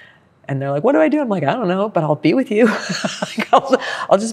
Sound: laughs

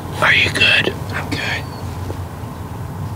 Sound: whispering

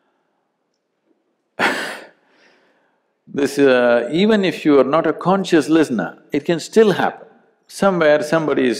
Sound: laughs

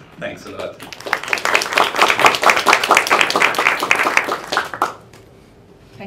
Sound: applause

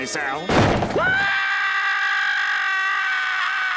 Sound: screaming

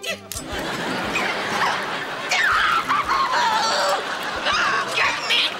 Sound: groaning

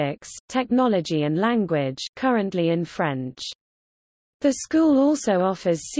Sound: currently in French

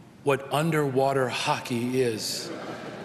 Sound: laughter

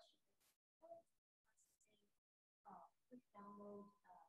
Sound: voice muffling

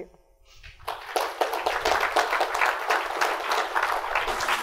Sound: applause

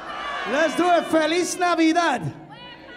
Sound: speaking in Spanish

